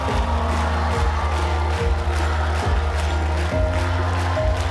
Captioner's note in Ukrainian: оплески